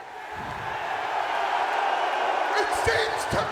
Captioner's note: audience cheering